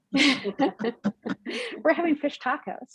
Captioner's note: all chuckles